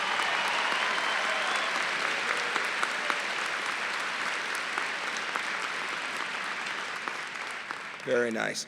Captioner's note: applause